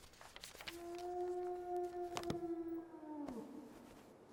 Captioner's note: wolf howling